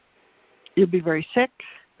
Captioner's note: none